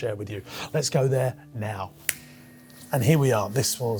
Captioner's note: clicks fingers